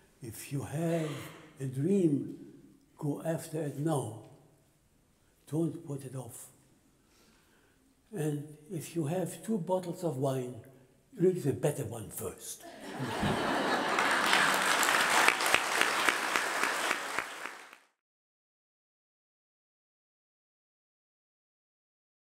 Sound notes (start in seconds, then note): 12.7 laughter and Applause